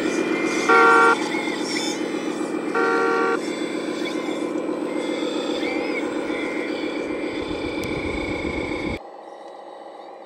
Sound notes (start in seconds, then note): 0.6 truck honking